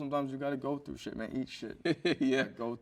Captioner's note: chuckles